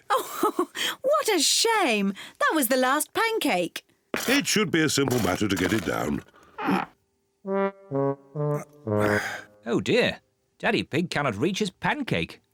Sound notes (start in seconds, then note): 0.2 laughs; 6.6 grunts; 8.9 sighs